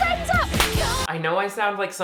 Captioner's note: slap smacks